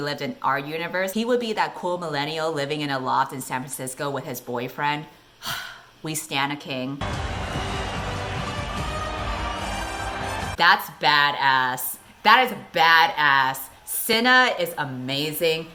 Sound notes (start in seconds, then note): 5.4 𝘴𝘪𝘨𝘩